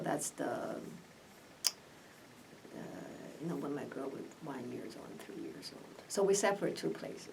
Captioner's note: speaks quietly